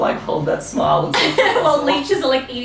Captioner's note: laughter